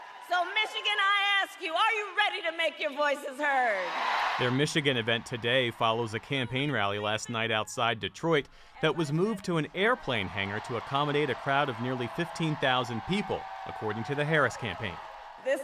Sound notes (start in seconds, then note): 3.4 cheering; 4.0 applause